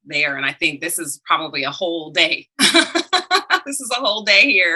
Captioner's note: laughs